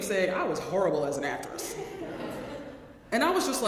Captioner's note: laugh